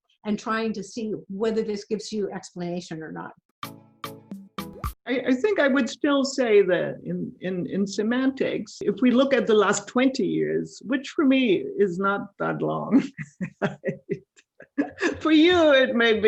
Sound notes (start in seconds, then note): 13.0 laughing